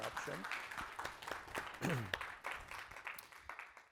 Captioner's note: applause